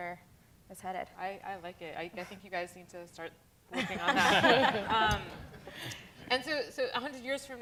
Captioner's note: laughter